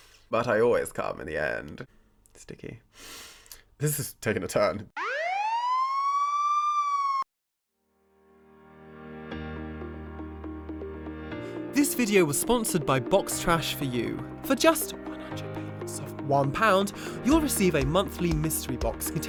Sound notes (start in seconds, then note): 4.9 sirens whirring; 8.3 upbeat music